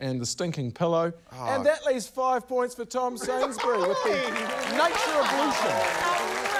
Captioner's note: cheering, applause